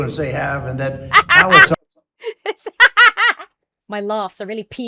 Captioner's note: cackles